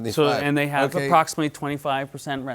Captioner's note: chuckles